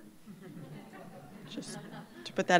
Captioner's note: laughter